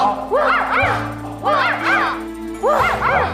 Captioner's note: woof, woof